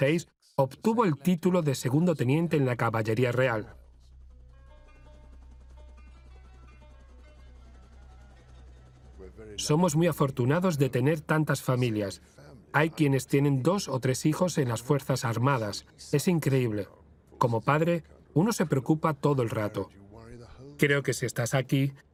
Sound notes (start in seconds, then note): 4.6 helicopter blades whirling